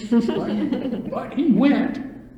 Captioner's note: laughter